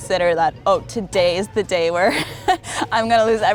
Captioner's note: chuckles